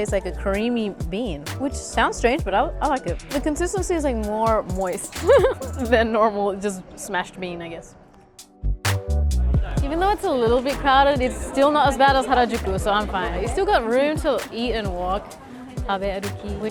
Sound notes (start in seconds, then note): 5.0 giggles